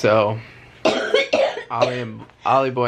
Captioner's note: coughing